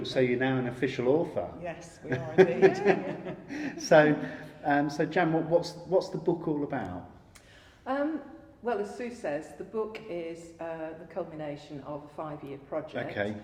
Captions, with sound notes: so you're now an official author. - Yes. (laughing) - So Joan what's the book all about? - Well as Sue says, the book is the combination of five-year project.